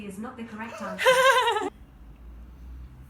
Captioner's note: laughter